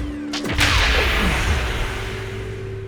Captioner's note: explosion